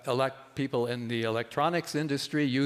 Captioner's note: none